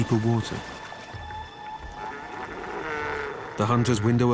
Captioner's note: bleating sea lion